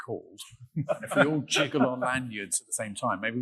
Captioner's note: laughing